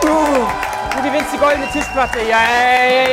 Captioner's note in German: Jubel